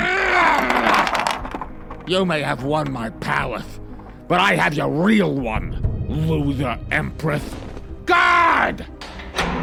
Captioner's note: growls